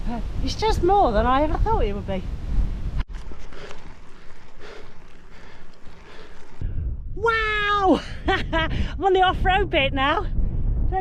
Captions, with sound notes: It's just more than I ever thought it would be. [Heavy breathing] Wow! I'm on the off road bit now.